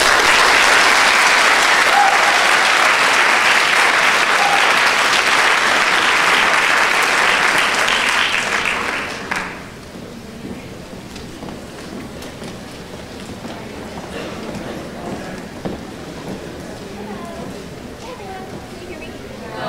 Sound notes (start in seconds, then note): 6.9 applause